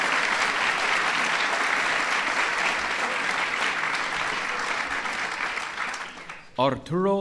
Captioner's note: applause